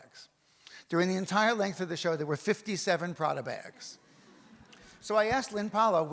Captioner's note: audience laughs